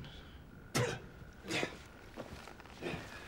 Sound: coughing

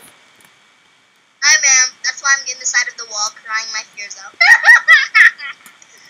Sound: sob!

